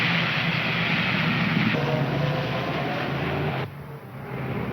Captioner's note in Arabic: هدير المحركات